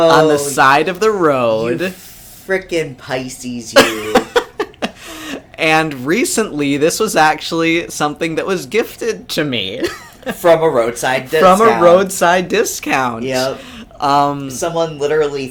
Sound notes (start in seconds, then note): 3.8 laughs